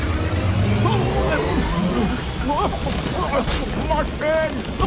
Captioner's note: MechaBot coughs, splutters; coughs